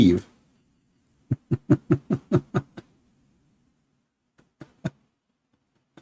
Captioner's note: laughter